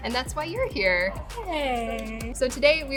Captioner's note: hands clapping